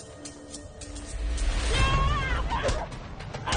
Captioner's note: yells